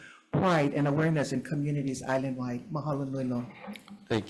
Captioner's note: speaks Hawaiian